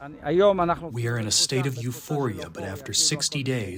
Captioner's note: through translator